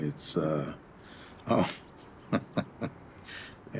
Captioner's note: chuckles